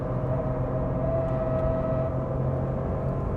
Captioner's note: engine raging